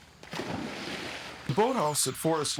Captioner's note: loud splash